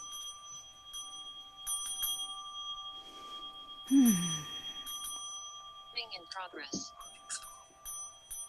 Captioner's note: speaks alternative language